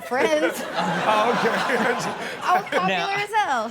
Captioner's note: crowd laughing